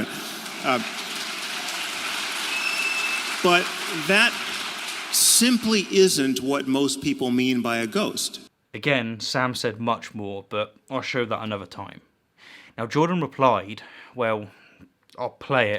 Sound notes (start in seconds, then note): 0.0 applaud